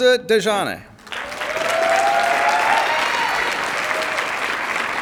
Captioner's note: cheers, applause